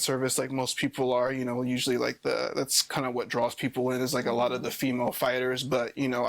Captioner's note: none